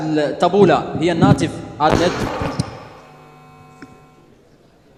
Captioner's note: something was dropped